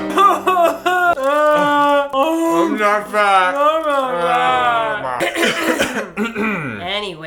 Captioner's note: ahem